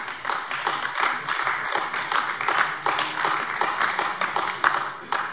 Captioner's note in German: Beifall AfD